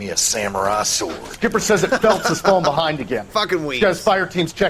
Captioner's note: laughs